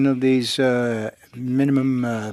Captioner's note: speaking French